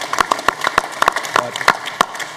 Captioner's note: applause